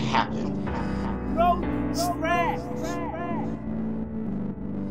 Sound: echo

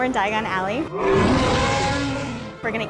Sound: loud roaring

